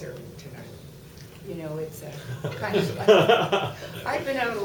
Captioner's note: laughter